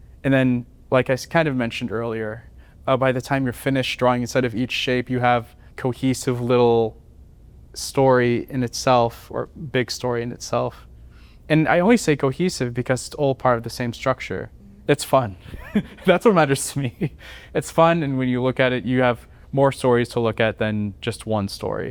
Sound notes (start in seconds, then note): 15.4 laughter